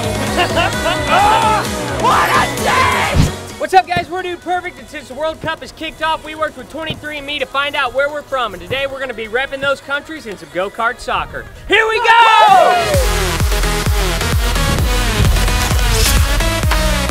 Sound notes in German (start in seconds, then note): 0.1 gelächter; 2.0 schreie; 11.9 jubel